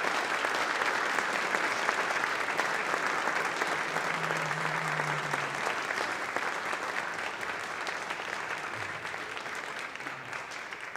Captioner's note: applause